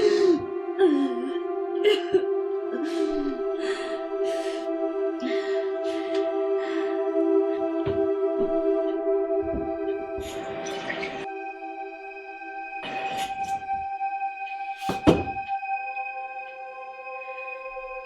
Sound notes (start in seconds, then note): 2.7 Naira gasping for air